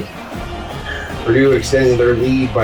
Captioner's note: crowd Noises